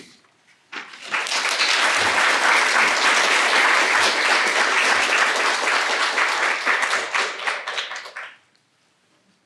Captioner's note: applause